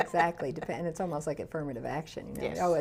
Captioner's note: laughs